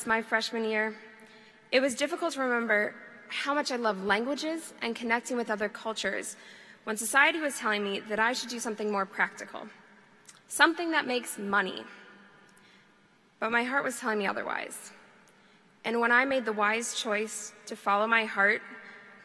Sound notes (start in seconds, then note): none